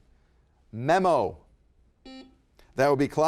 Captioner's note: buzzer beeps